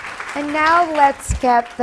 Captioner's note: applause